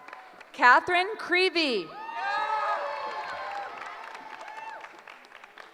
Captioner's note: cheering